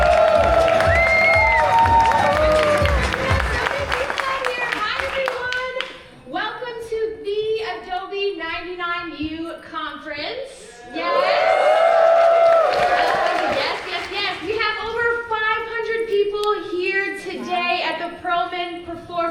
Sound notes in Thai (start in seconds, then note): 0.0 ปรบมือ; 10.9 เสียงเชียร์